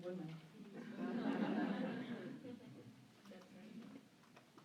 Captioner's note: laughter